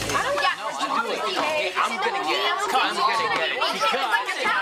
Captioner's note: audience laughing; upbeat rock music; overlapping chatter